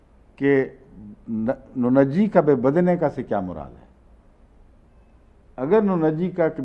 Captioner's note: Arabic